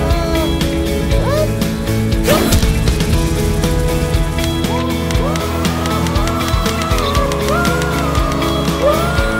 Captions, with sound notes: Um...what? (grunts) (whirring) Whoo! Whoo!